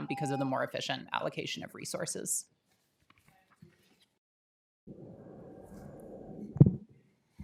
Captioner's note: timer tone